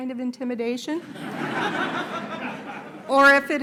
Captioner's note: laughter